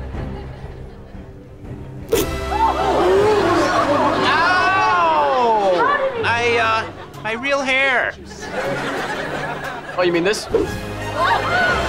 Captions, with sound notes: [chattering] - Ow! - How did he-- I, uh, my real hair. Oh, you mean this?